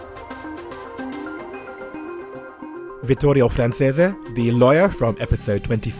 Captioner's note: voiceover